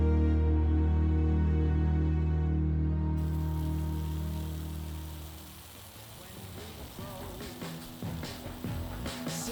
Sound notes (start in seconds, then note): 3.2 spray spewing